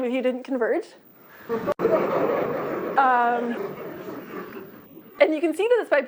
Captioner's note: laughter